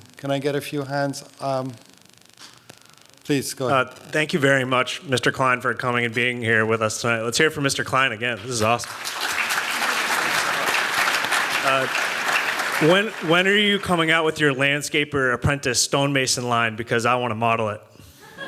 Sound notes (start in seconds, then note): 8.3 applause; 18.3 laughs